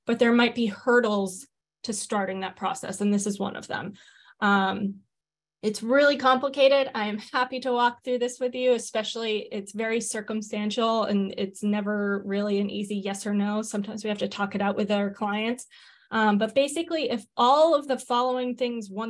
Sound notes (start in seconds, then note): none